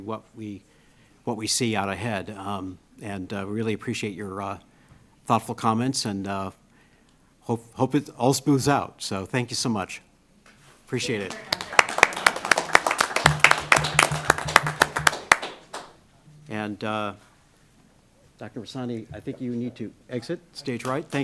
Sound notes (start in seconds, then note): 11.0 applause